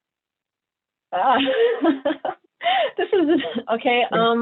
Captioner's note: chuckles